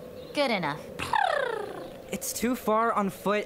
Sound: Pia makes animated sounds

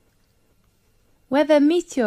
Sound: 5 seconds pause

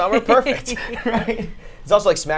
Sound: all laugh

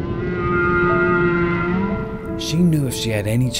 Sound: whale crying

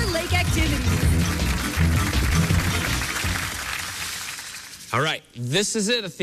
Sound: applause

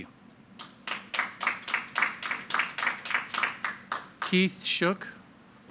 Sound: audience applauding

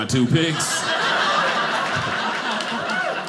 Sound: audience laughing

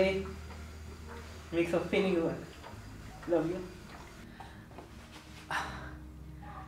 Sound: crying

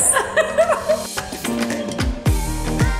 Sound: laughs; upbeat music

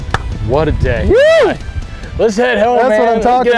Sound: whooping

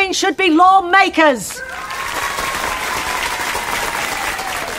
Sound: loud cheering

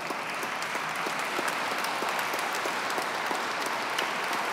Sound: audience clapping

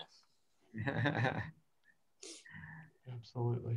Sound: laughs

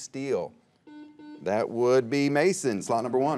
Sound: buzzer beeps

